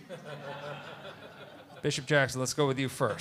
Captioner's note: laughter